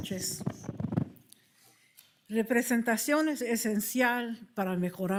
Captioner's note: speaking foreign language